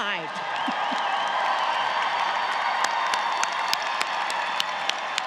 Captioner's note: audience cheers